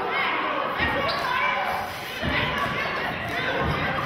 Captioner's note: yelling